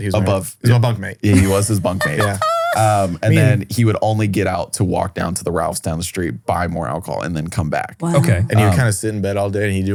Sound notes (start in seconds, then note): 1.4 laughs